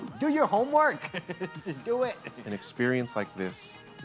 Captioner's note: laughs